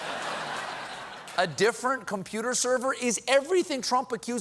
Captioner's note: laughter